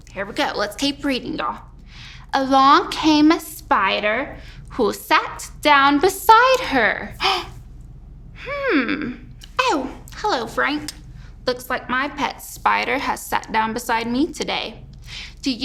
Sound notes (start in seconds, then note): 7.2 Granny B gasps